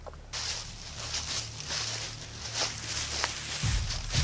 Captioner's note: footsteps